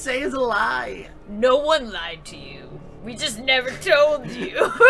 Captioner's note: lols from both